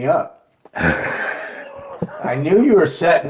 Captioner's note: laughing